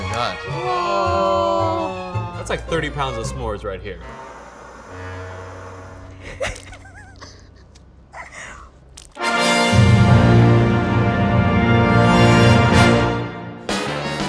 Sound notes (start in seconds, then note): 4.0 blow torch whooshes